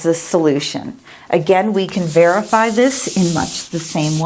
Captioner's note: eraser wiping board